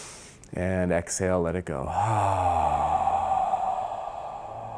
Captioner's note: loud inhaling; loud exhaling